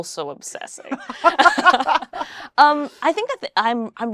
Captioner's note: both laugh